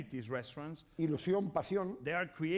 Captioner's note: speaking spanish